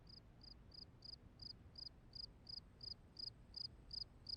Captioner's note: cricket chirpping